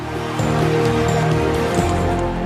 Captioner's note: applause